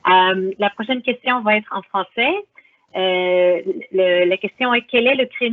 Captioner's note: speaks in foreign language